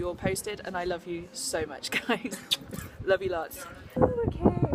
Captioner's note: kiss